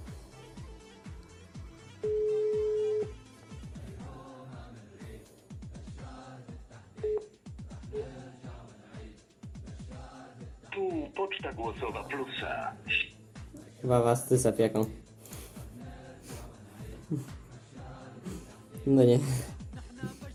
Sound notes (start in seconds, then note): 16.8 laughs